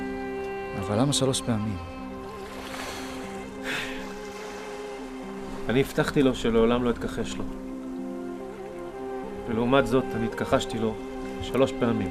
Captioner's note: conversation in Hebrew